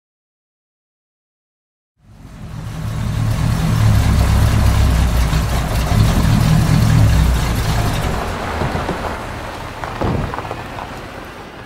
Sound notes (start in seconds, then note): 2.0 car engine that's way too loud; 9.7 car doors open and close